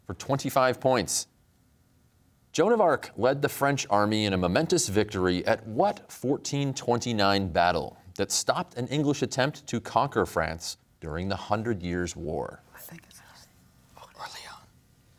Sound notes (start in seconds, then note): 12.9 team whispering; 14.1 whispers